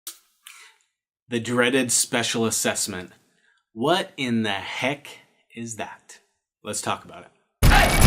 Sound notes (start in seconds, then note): 0.0 claps hands; 7.6 up-tempo music